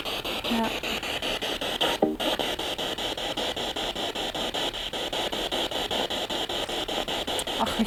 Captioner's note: noise of the spiritbox in the background